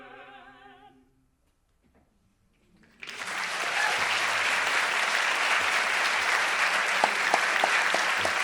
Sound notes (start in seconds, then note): 3.0 audience applauding